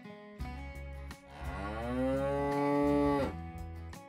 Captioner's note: cow Moo